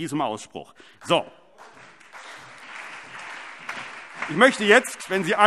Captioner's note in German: Beifall CDU, BÜNDNIS 90/DIE GRÜNEN, SPD und Freie Demokraten